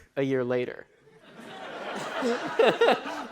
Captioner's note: laughter